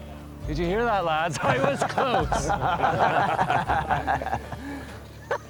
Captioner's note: laughter